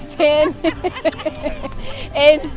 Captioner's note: laughter